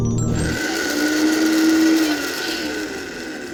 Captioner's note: blender whirring